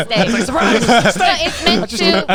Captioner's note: all laughing